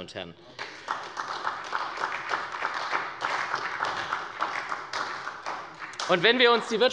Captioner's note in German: Beifall bei der SPD